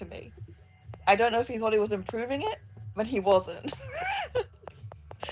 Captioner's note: laughs